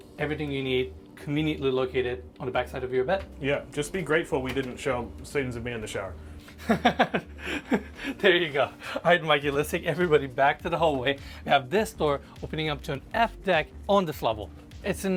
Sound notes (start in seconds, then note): 6.5 laughs